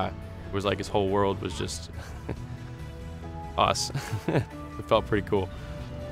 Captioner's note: laughs